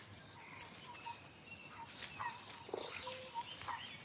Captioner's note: toad chirping